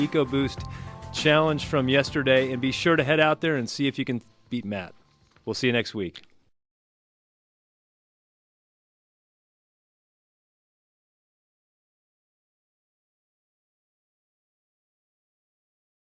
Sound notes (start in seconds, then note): none